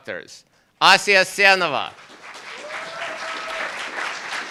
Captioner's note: applauds